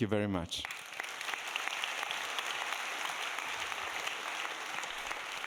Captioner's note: audience applauding